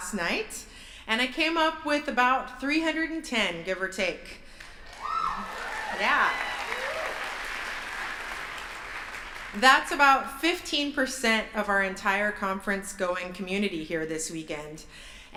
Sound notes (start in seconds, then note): 4.6 applause